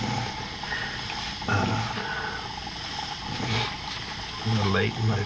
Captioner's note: sniffling